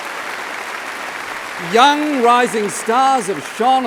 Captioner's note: applause